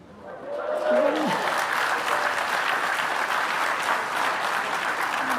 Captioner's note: applause